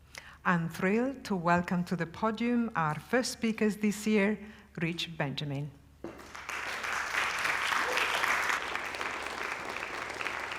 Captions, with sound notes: I'm thrilled to welcome to the podium our first speakers this year, Rich Benjamin. [applause]